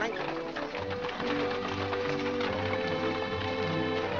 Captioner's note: hooves trotting & cart rattling